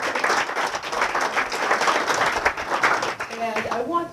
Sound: applause

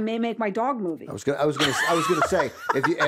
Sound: laughs

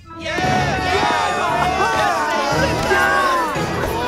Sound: cheering

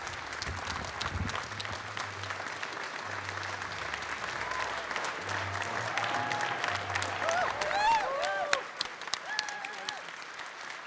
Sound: cheering and Applause

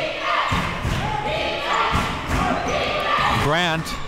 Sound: crowd

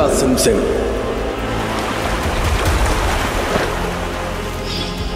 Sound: water gushing

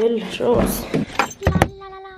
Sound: door being opened

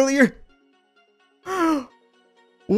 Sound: inhale

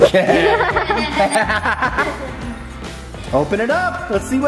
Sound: everyone laughs

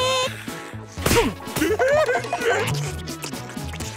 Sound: giggling

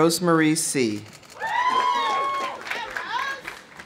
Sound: audience applauding; audience cheering

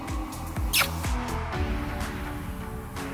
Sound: kiss

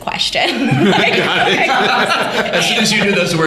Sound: laughter

